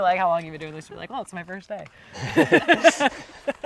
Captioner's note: laughs